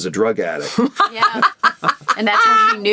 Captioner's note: Seehorn laughs